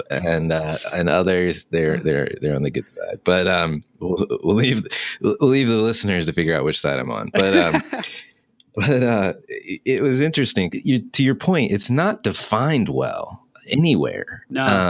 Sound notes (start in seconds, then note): 7.3 laughing